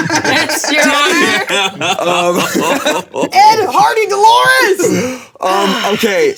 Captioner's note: players laughing hysterically